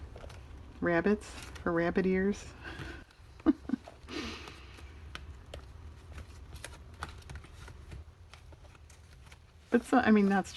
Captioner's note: laughs